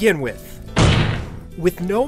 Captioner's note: slam